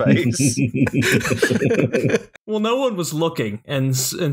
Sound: laughter

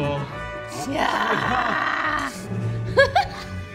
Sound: laughing

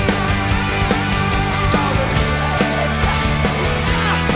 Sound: upbeat rock music; rasping

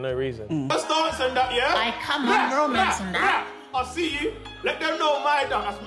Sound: Mo shouting loudly unintelligibly

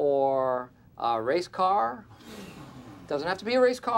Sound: all groan

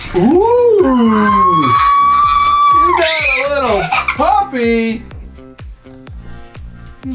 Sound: shrieks and giggles

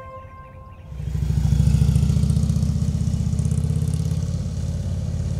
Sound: engine roaring

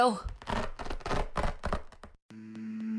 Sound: tearing

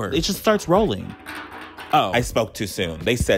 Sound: Beanz rattling

